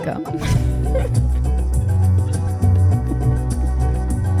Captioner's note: upbeat music; laughing